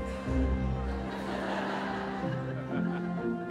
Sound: crowd laughs

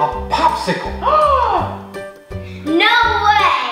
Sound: gasp

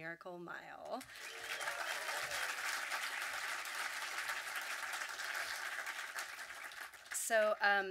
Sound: audience clapping

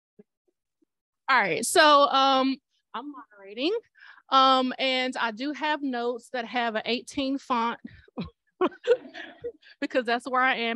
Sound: laughter

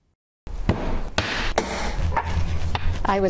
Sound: clay stomping

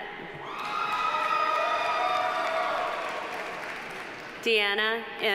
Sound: audience cheering; audience applauding

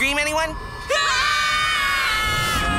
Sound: screaming

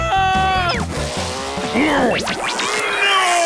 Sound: fading roar

